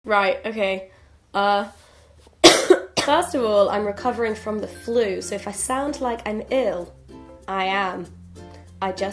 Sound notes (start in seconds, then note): 2.4 coughs